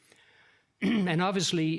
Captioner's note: clears throat